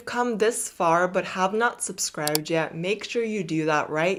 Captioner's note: mouse clicking